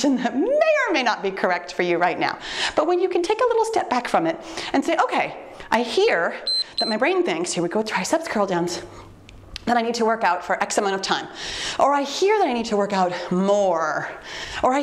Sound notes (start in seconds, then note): 6.4 timer beeps